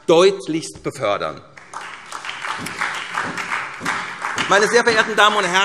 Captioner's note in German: Beifall